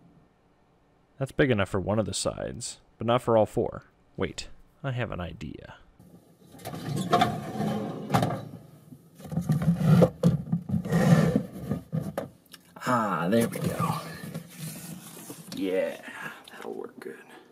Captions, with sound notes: That’s big enough for one of the sides, but not for all four. Wait, I have an idea... [closet door opening] [bottles of cleaning products being slid aside] Ah, there we go! Yeah, that'll work good...